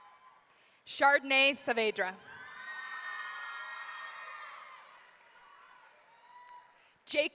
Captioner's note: audience cheering